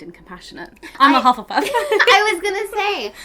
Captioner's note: laughs